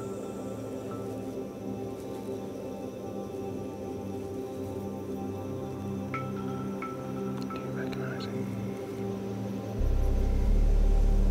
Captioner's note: whispering